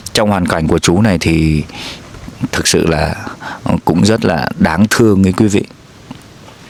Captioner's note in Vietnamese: khịt mũi